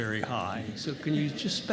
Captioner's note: laughter